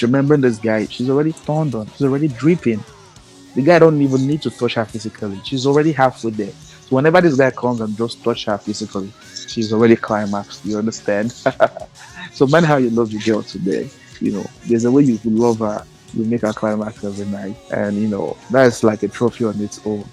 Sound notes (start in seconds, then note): 10.9 laughs